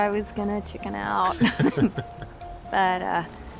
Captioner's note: chuckling